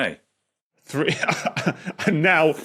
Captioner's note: chuckles